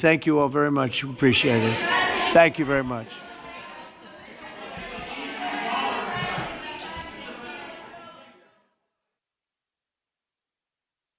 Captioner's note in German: Beifall